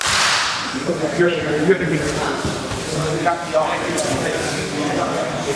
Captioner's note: clap; indistinct conversation